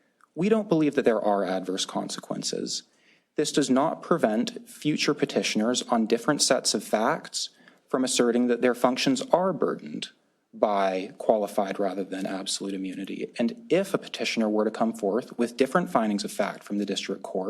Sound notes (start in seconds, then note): none